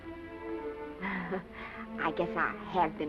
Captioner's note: Esther laughs